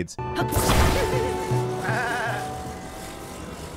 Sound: Link grunts

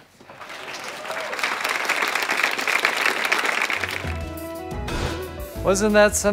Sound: audience applause

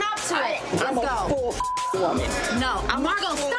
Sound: beep

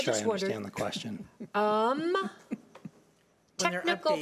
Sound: people laughing

